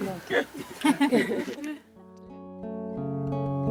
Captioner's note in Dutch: gelach